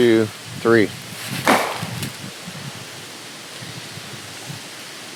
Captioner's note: tree knocker bangs